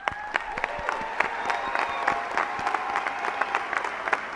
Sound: applause

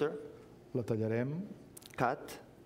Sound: speaking catalan

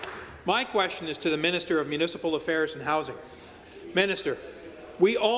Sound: some Applause

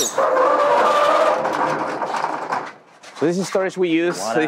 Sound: door creaks and rolls

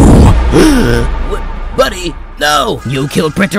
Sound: gasp

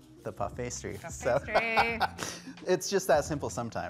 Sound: laughing

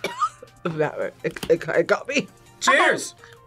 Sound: coughs

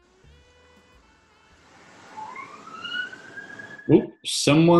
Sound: sound of siren in distance

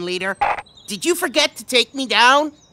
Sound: none

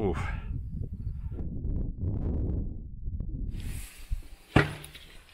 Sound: wind blowing; door opens

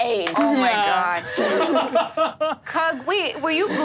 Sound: laughs

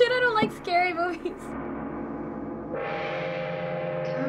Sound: gong booming

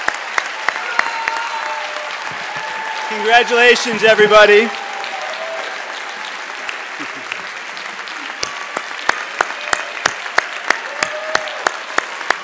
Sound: cheers and applause

